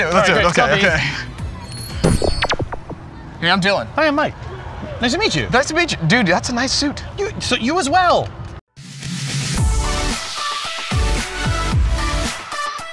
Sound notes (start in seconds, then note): 1.8 neuralyzers zapping; 9.6 upbeat music